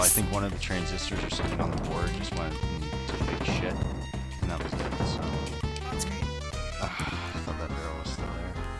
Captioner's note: sigh